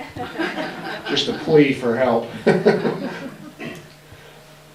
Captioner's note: laughs